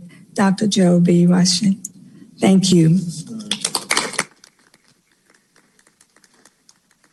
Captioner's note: applause